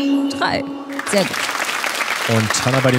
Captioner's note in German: Applaus